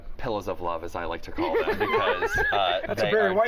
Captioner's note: laughter